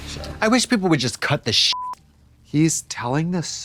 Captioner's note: beep